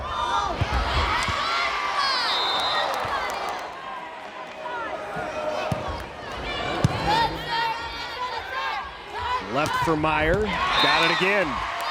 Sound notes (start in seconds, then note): 6.4 players yelling; 10.3 crowd cheering